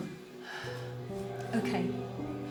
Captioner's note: sighs